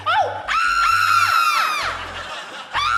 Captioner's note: screams; laughs; screams